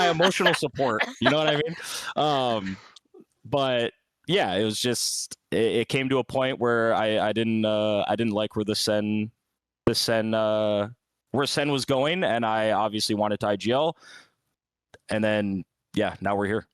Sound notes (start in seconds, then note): 0.0 laughs